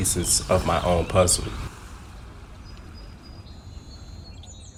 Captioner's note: birds chittering